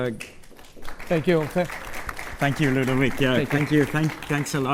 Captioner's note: applause